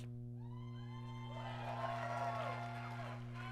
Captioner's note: applause